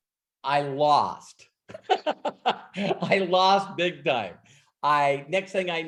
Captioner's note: laughs